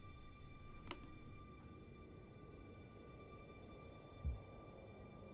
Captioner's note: laptop mouse clicks